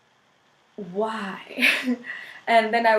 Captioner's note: laughs